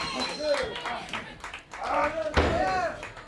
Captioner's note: crowd chatter